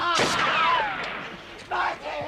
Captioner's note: gunfire continues